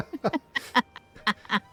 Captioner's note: laughter